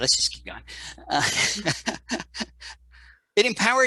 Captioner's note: laughs